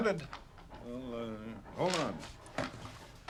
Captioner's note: mumbling